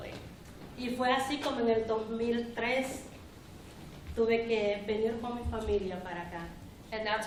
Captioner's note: speaking spanish